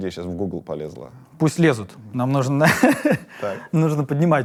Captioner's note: laughs